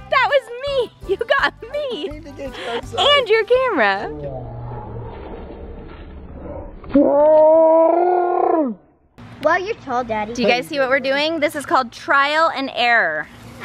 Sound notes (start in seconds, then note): 6.7 slow motion scream